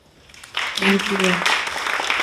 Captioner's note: audience applauding